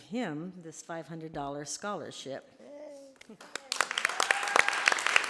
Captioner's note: applause